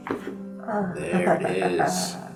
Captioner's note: patient laughs